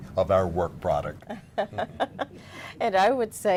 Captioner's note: laughter